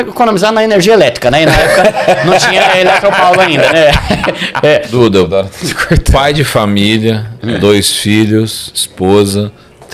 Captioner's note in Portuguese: risadas